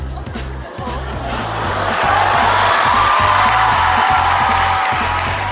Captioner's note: crowd cheers emphatically